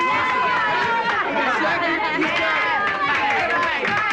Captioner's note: yelling